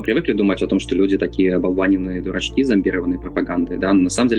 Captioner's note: Russian